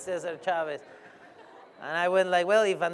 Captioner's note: laughter